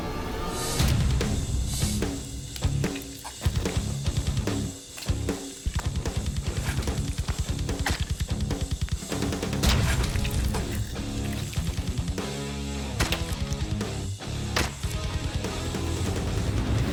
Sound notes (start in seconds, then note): 1.4 rock music; 6.4 blade impacts